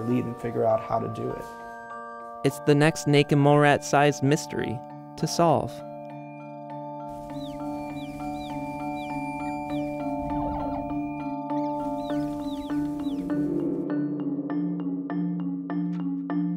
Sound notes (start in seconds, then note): 7.5 squeaking; 12.9 mysterious music